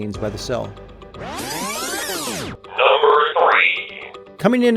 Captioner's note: electronic buzzing